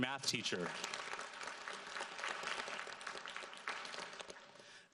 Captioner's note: audience applauds